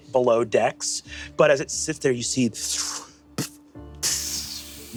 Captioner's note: mimics steam hissing